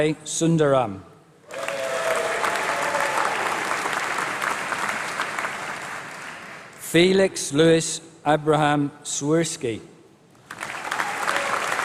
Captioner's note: applause; applause